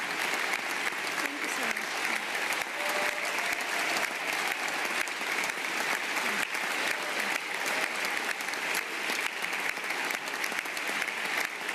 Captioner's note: applause